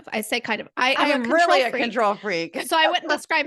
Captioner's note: laugh